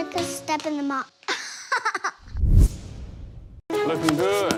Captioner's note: laugh